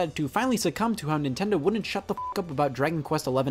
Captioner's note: beep